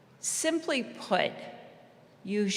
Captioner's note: none